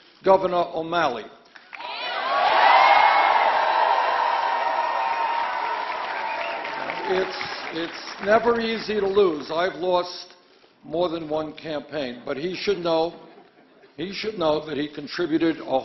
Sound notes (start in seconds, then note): 7.3 applause